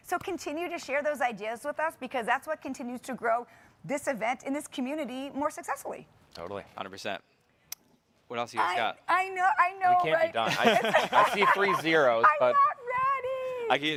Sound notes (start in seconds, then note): 10.4 hosts chuckling